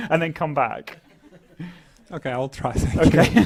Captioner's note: laugh; laugh